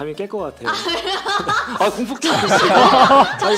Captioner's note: laughter